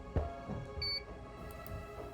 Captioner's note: beep